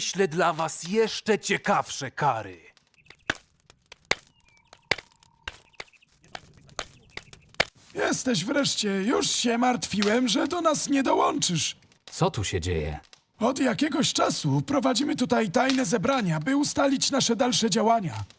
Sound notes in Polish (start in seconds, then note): 3.0 odgłos kilofa ultra-szybko uderzającego w samorodek złota